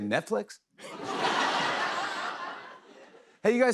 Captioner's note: laughter